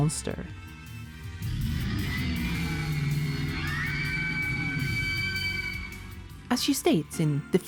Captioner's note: roars